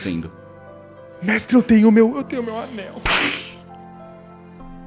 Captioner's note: splash